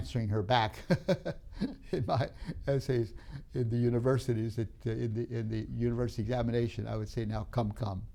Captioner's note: laughs